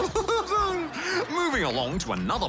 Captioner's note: laughs